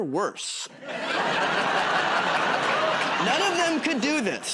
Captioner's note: laughter